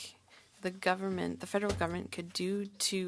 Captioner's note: speaking French